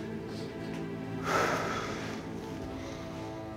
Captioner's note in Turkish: İç çekti